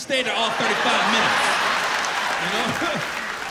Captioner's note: laughter